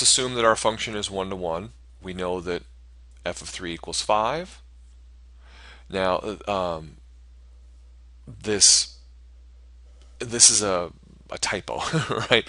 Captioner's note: laughter